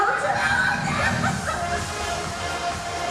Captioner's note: laughing; upbeat music instrumental